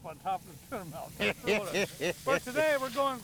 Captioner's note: others laughing